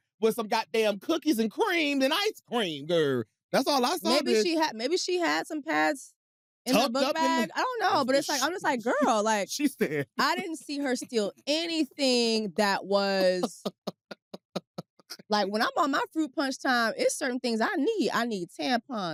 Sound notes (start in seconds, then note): 10.1 chuckles; 13.0 laughs